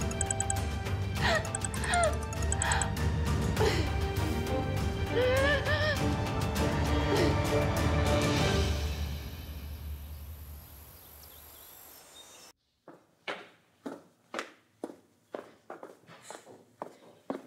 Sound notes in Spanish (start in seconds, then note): 0.0 suena el celular; 5.0 sollozos